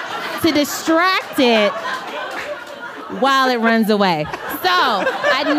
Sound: laughter

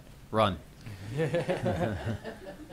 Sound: laughter

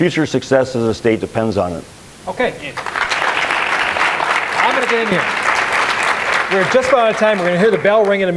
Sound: applause

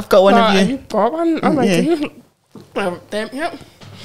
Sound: chuckles

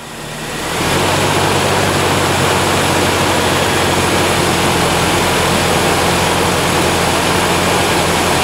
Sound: engine running

